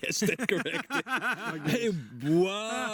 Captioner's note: group laughing